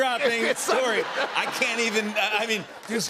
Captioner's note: laughter